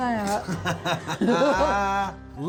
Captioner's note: laughing